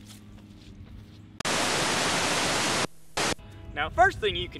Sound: static

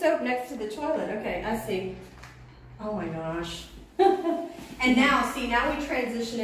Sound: laughs

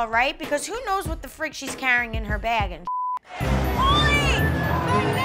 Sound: beep

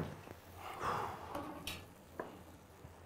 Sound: sighs

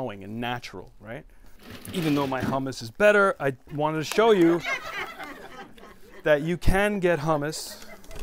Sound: laughter

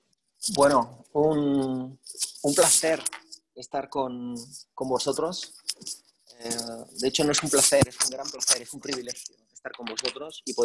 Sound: speaking spanish

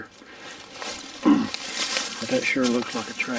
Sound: leaves rustling

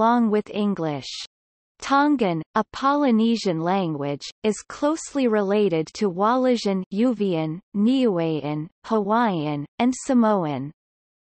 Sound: Uvean

